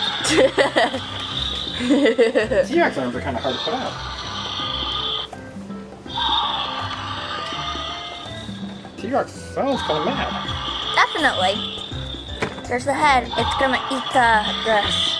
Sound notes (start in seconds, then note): 0.0 dinosaur growls; 0.0 assistant laughs; 4.3 dinosaur growls